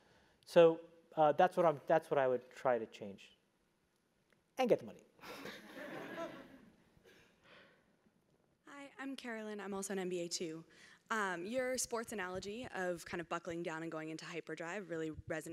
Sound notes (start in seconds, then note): 5.3 laugh